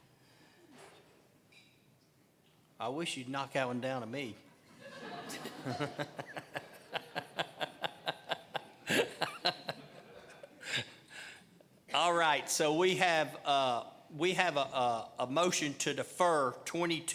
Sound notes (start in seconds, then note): 10.7 laughing